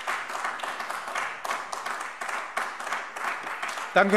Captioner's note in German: Beifall AfD